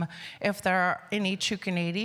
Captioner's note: speaking indigenous language